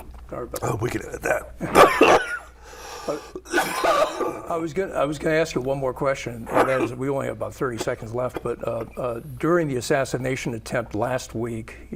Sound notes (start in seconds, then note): 3.0 coughing